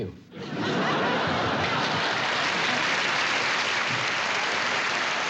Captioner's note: applause